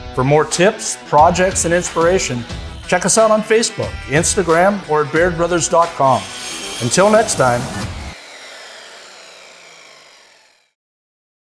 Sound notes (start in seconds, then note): 7.7 saw buzzes